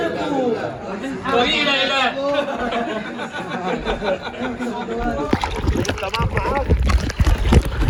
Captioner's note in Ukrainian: сміх